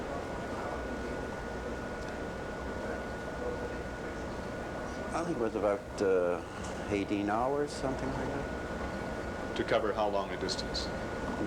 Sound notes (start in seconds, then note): none